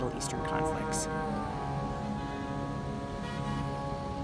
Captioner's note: car horns honking